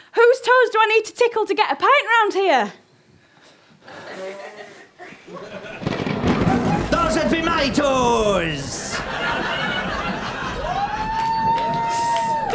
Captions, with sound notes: Whose toes do I need to tickle to get a pint round here? (THUNDER RUMBLES) Those'd be my toes! (AUDIENCE WHOOP AND CHEER)